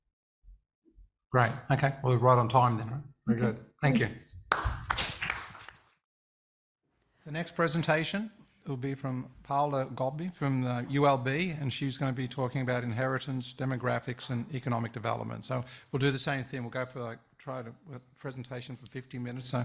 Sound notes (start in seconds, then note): 4.5 audience applauds